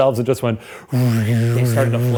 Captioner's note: imitates buzzing